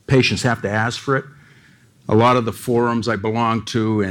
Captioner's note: none